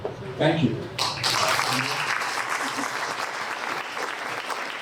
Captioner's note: applause